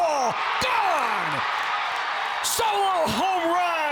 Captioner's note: crowd cheers